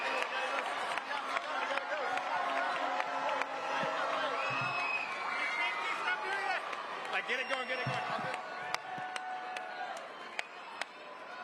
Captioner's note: cheering & applause